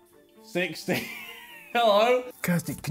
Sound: laughs

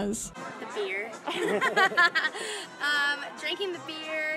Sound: laughs

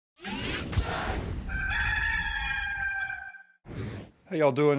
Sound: mechanical zipping; rooster crowing

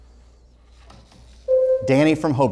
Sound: buzzer sounds

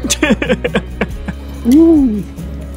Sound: laughs

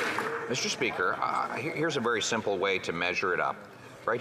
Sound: some Applause

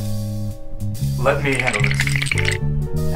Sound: bone rattle

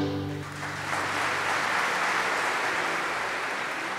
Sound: audience applauding

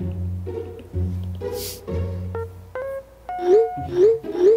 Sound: laughing

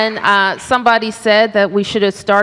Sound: applause

